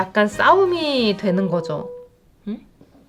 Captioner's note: boop!